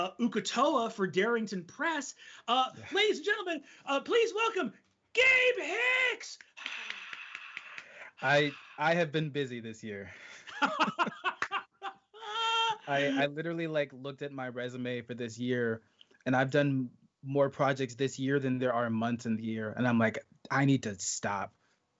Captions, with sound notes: Uk'otoa for Darrington Press. - Yeah - Ladies and gentlemen, please welcome, Gabe Hicks! - Hi. I have been busy this year. (both laughing) I literally looked at my resume for this year and I've done more projects this year than there are months in the year and I'm like, I need to stop.